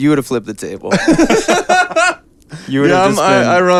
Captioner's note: laughing